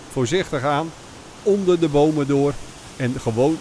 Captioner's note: voiceover